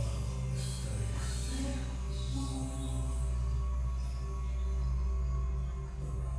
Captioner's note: person whispering softly